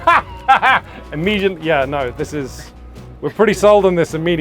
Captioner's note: guffaws